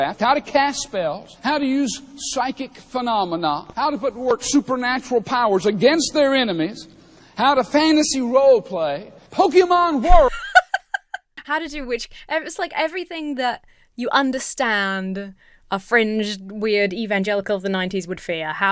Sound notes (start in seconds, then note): 10.0 laughs